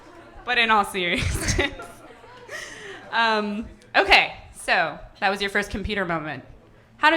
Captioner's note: laughing